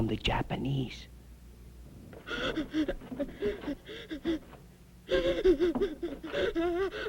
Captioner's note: sobbing